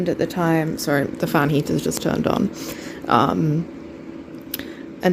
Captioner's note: fan noise